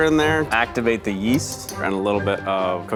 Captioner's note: measuring spoon tapping